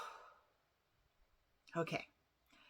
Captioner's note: phew